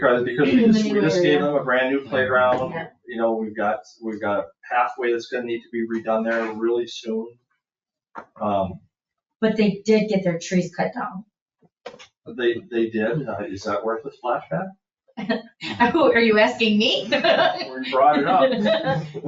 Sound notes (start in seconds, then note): 15.6 laughs